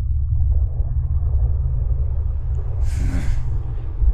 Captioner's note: faint, ominous voices begin to whisper out